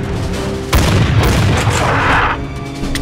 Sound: military drumbeat; bang-bang; military drumbeat

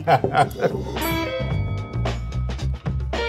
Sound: loud ding; upbeat music

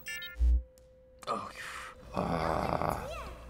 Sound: exhales in relief

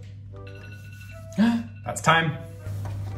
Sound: alarm dinging

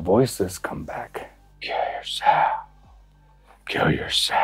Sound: whispers

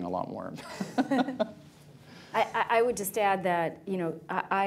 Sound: laughs, laughter

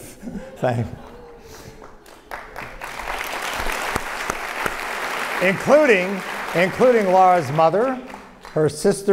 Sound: applause

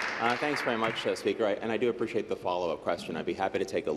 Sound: applause

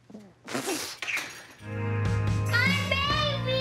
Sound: chuckles

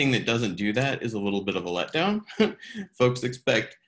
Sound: chuckles

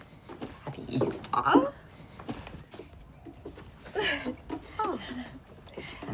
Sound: giggles

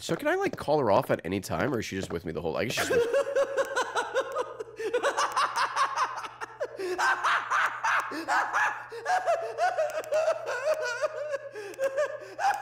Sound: evil laughter

